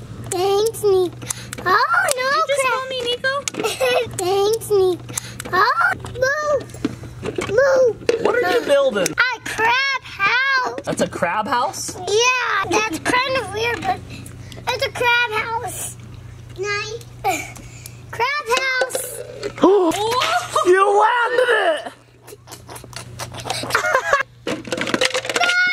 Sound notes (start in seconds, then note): 6.6 cups rustling; 18.5 cup rattles; 19.1 group gasps; 24.5 laughs